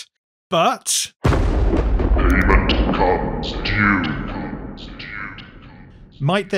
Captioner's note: thunder